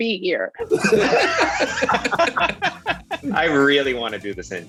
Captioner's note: group laughs